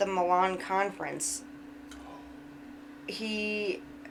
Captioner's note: whispers